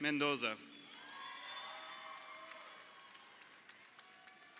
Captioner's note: crowd cheering